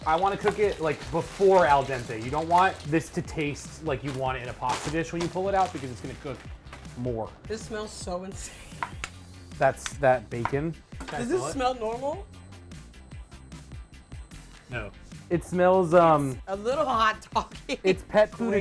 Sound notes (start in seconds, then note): 1.7 bag rustling; 8.7 laughs; 10.3 knife chopping